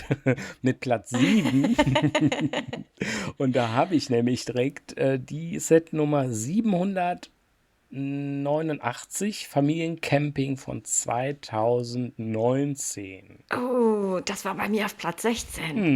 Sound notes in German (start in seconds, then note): 0.0 gelächter